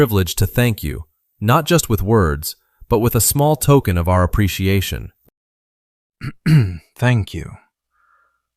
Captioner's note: clears throat